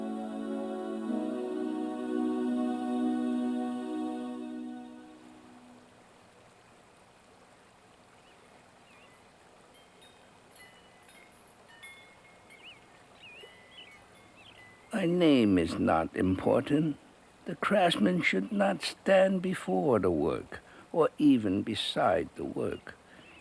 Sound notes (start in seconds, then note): 0.0 piano music; 4.8 raining